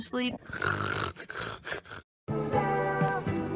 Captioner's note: fake snoring